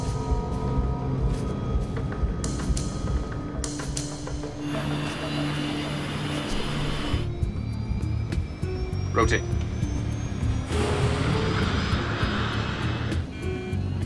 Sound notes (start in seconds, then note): 0.1 tense music; 4.6 engine whirring; 9.9 plane soaring